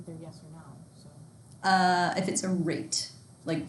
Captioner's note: student mumbling